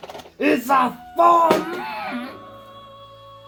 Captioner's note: death scream sound effect here